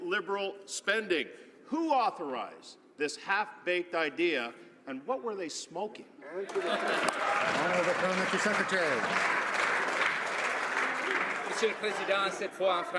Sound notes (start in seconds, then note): 11.4 some Applause